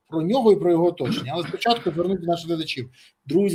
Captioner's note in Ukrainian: прочищення горла